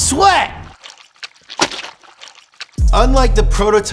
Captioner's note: sloppy wet noises